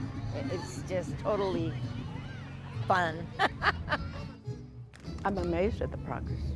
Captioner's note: laughs